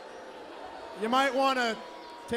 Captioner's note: crowd cheering